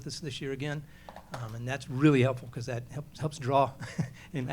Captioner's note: laughs